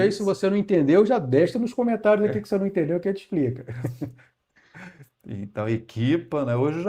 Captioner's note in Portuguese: risadas